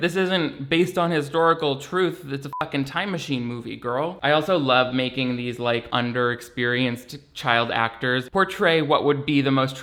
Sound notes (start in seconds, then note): 2.5 beeps